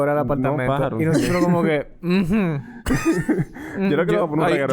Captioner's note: laughs